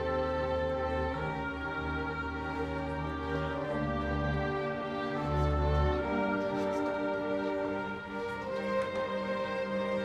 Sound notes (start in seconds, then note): none